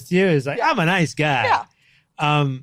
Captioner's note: laughing